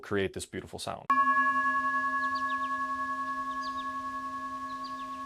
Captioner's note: bowl dinging